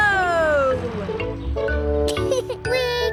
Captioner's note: laughs